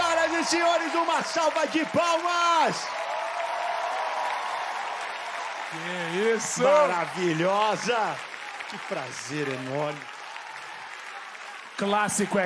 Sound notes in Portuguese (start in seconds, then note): 3.4 ovação; 10.7 aplausos